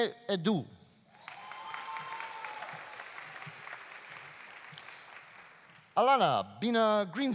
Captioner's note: audience cheering; audience applauding